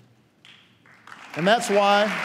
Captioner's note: applause